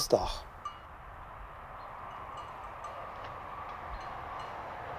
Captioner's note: quiet noises of tools, car driving past